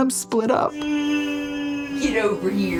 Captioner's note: vocalizes